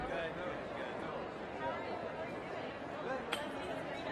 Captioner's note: crowd murmuring